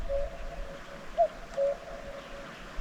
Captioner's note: cuckoo